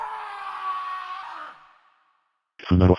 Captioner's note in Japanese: 叫び声